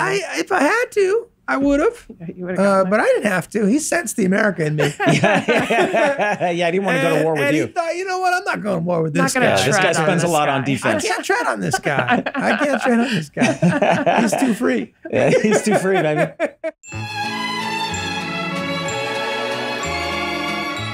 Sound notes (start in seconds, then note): 4.8 laughs; 12.4 laughs; 13.8 Glenn and Megan laughing; 16.5 Charlie laughs; 16.8 cheerful orchestral music